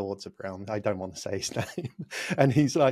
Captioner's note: laughs